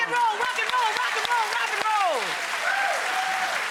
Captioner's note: cheering